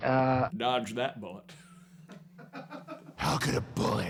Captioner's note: laughing in background